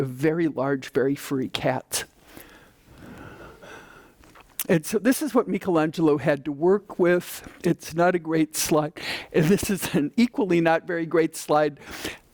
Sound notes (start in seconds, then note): none